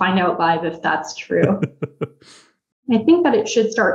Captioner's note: laughs